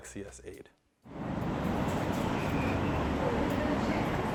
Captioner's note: traffic sounds